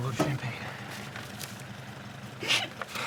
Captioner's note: sobbing